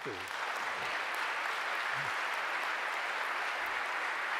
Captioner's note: applause